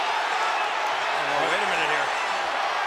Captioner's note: crowd shouts